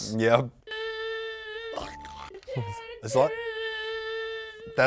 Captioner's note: video groans